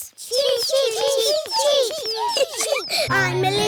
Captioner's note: children imitating chicks